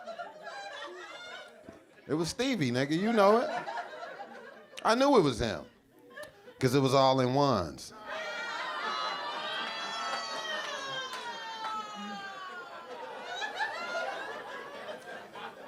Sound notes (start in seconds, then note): 8.6 audience member yelling